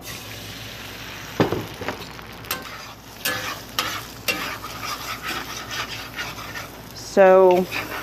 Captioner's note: vigorous stirring